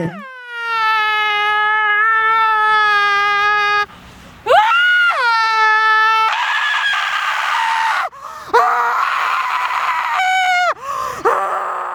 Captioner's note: agonizing screams